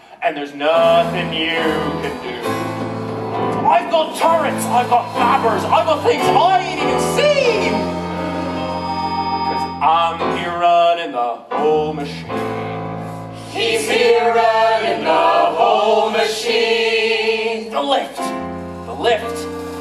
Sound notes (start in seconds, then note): 0.1 sung; 14.3 echo